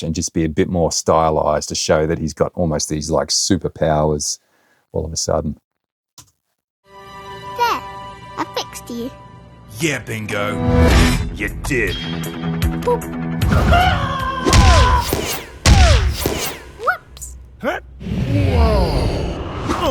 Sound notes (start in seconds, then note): 6.9 reflective music; 10.5 dramatic music; 13.4 Stripe exclaims; 14.4 air whips; 14.5 ball pounds; 17.6 grunts